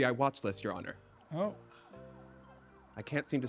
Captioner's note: distant sirens blaring